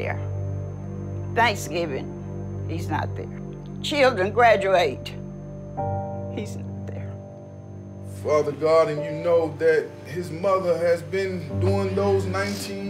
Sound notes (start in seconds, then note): 4.6 voice breaking